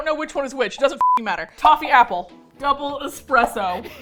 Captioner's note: laughs